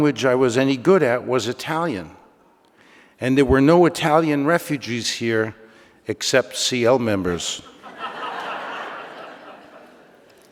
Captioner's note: laughter